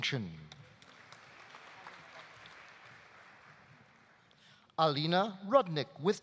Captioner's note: audience applauding